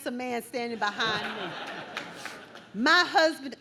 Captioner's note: audience laughs